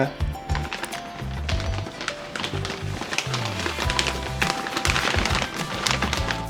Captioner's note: sound of plastic wrap backing